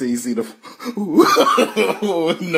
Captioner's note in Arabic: يضحك